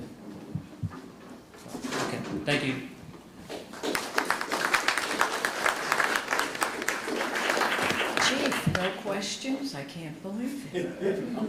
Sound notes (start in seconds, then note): 3.7 applause